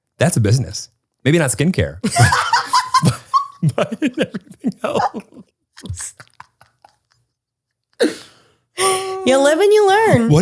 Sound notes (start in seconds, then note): 2.0 both laugh; 5.8 laughter continues